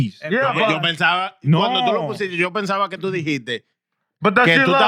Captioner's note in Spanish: Hablando en idioma extranjero